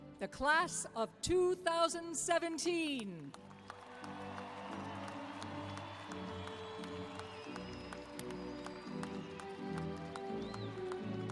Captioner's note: cheers and applause